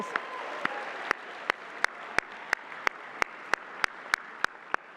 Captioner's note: applause